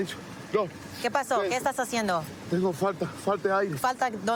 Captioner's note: speaking spanish